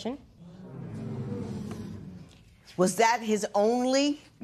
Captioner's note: spectators murmur